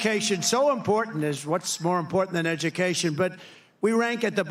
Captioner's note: applause